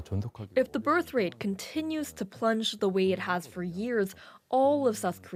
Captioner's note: speaking Alternate Language